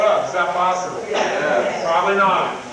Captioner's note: crowd